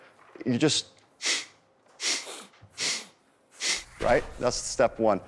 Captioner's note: inhales and exhales rapidly